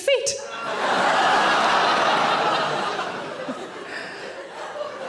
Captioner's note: audience laughing loudly